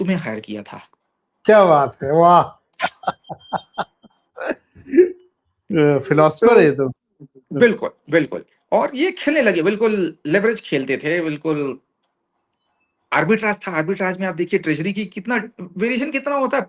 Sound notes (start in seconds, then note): 2.8 laughter; 4.4 sound of clearing throat